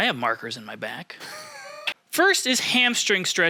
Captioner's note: laughing